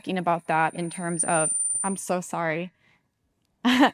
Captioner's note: microphone chirping